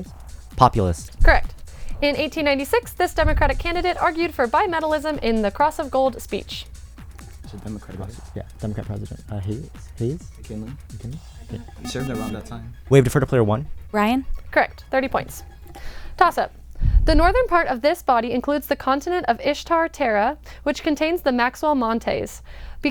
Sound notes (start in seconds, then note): 7.2 wispering; 11.6 bell